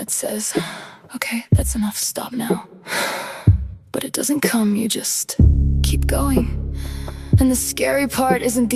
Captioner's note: breath